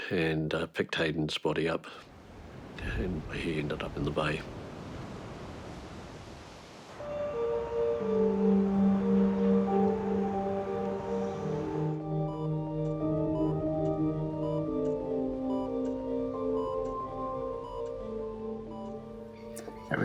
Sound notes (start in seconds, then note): 11.9 machines beep